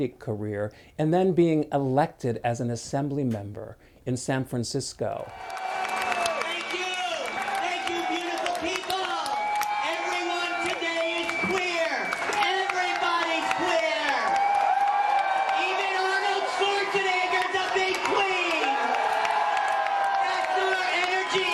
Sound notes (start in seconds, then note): 7.7 clapping and cheering